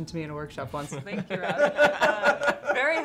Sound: laughter

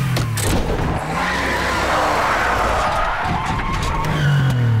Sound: tires screeching

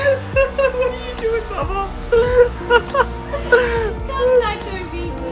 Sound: laughing loudly; laughs loudly

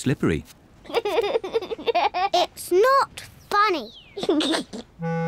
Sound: giggles; giggles

